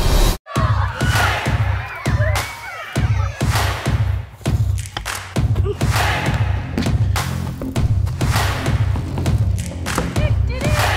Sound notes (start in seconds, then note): 0.5 children cheering; 0.6 upbeat music